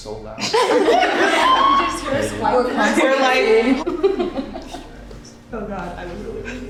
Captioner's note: everyone laughing and chatting indistinctly